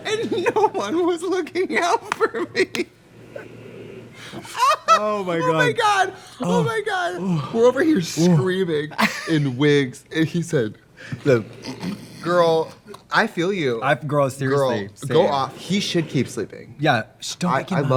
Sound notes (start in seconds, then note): 4.2 laughter - man continues to snore; 11.2 Trixie and Katya snoring